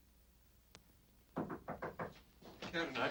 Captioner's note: knocking